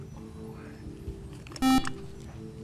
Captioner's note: buzzer